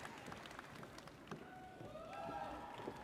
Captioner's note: audience applauds; audience cheers